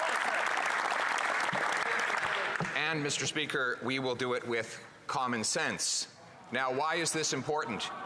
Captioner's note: applause